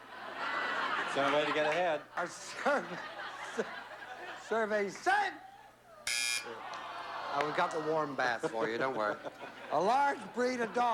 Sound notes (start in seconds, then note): 0.0 laughter; 1.8 laughing